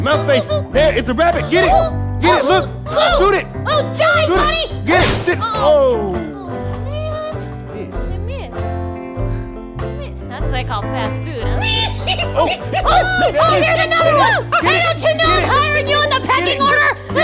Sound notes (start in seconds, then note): 5.0 bang